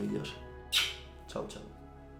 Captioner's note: kisses